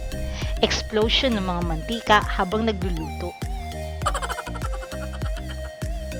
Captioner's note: laughing